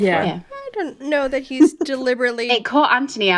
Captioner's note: laughing